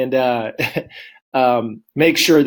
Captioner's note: chuckles